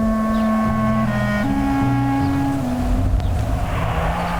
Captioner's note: dramatic music; birds chirping; wind howling